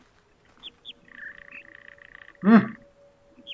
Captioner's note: bird chirps high-high-low-mid